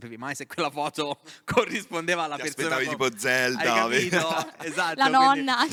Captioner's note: laughing